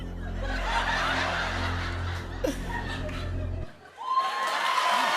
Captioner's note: laughter; cheers and applause